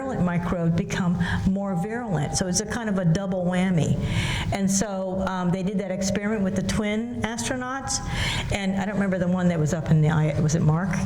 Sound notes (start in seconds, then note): none